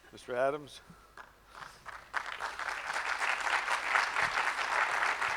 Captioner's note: audience clapping